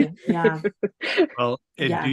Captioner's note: laughs